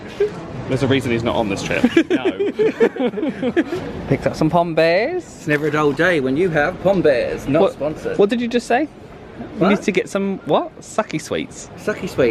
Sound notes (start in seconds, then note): 1.7 both laugh